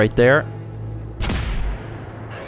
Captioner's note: blam!